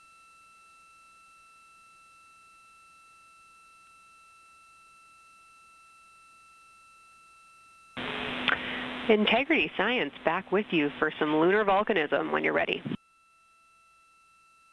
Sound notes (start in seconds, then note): 4.1 silence